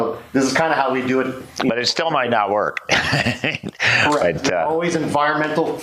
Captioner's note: laughs